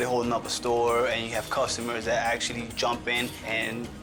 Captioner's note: none